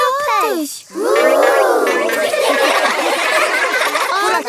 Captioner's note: laughing